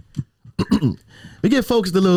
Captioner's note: clears throat